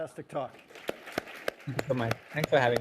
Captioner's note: audience clapping